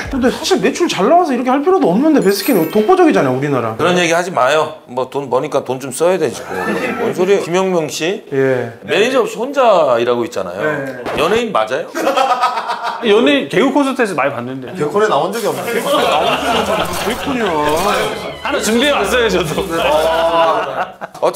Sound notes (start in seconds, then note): 6.4 bwahahaha; 11.9 hahahaha